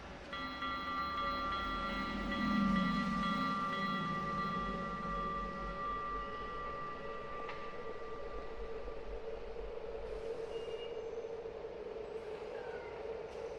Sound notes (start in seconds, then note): 0.1 suspenseful music; 8.9 wind howling